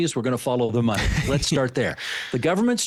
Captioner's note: chuckling